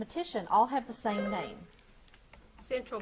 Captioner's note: buzzer beeps